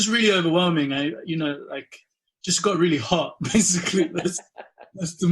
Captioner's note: laughs